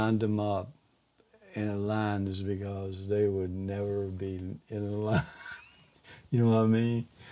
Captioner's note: laughs